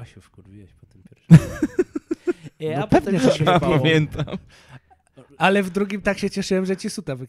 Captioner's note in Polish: śmiech